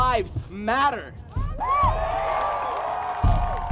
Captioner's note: cheers